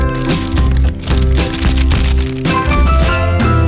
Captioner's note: crinkle of parchment paper pulled back for close-up of bread